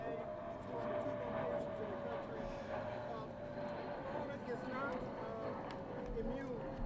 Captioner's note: airplane overhead drowns out other sounds